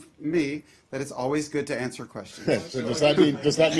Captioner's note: laugher